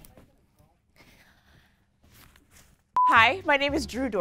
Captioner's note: monotonous high pitch sound